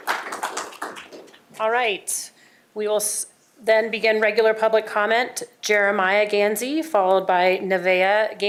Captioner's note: applause